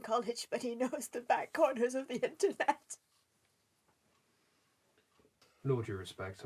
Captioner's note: sobbing